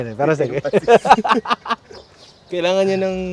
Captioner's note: laughs